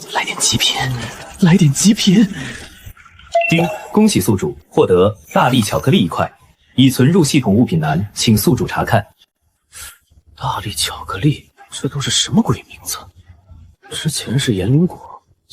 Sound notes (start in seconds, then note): 3.4 ding!